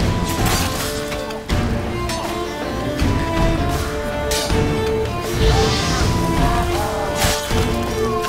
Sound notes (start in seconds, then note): 5.2 flames whoosh; 6.7 scream